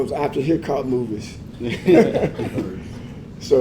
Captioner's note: laugh